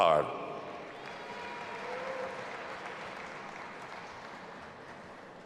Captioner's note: audience applauding and cheering